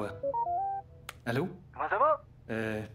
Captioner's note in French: Sonneries de cellulaire